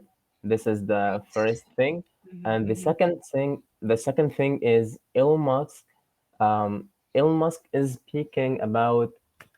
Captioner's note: speaks